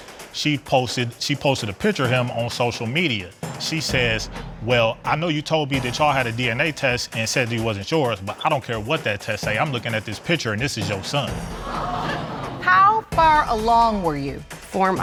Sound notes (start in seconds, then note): 11.4 audience exclaiming